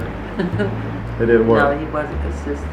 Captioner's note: voiceover